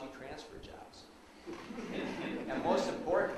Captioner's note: audience laughs